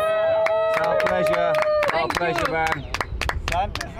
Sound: applause

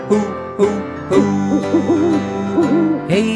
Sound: owl hooting

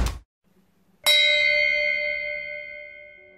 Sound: bell rang

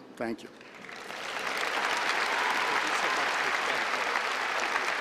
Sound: applause

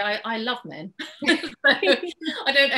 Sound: laughs

